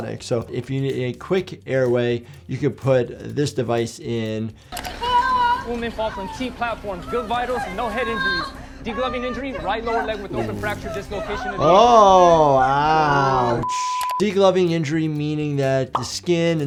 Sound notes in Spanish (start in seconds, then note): 5.0 paciente llorando; 13.6 pitido